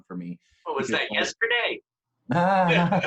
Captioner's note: laughs